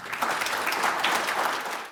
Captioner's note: applause